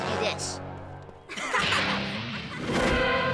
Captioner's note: laughing